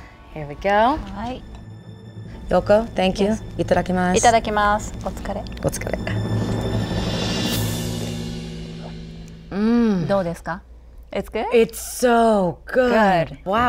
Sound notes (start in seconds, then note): 5.8 drum rolling; 9.5 moans; 10.0 speaking in foreign language